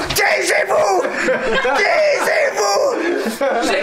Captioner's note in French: Rires